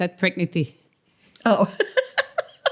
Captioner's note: laughter